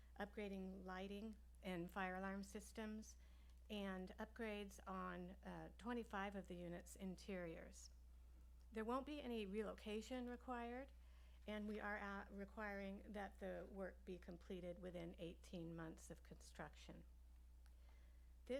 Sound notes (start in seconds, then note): none